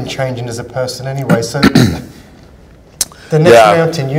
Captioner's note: clears throat